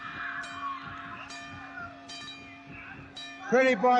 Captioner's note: arena bell rings